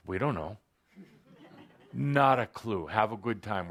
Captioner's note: laughter